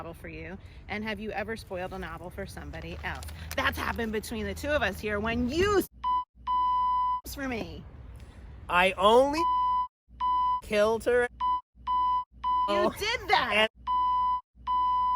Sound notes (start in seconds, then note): 6.5 beep; 10.9 beeeeeps; 12.4 beeeeps